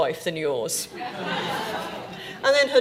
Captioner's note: audience laughing